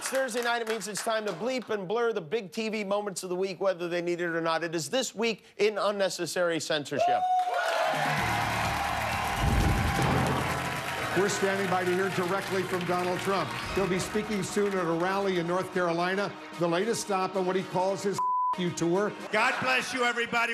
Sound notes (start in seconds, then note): 8.6 applause; 8.9 cheers and applause